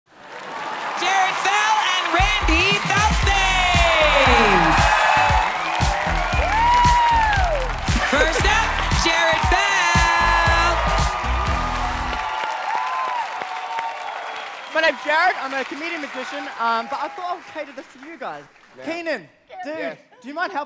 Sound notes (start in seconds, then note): 3.9 cheers and applause; 10.9 upbeat music